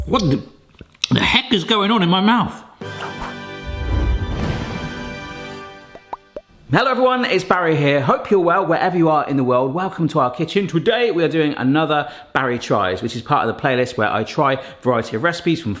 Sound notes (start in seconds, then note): 2.8 upbeat music; 5.9 bubbles pop